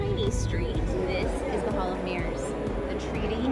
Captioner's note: tourists murmuring